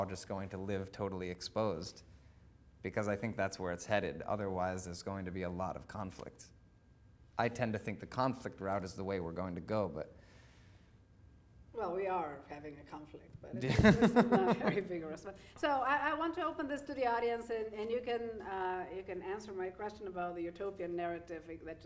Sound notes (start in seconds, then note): 13.7 laughing; 14.1 murmuring